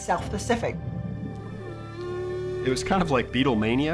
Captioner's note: whale song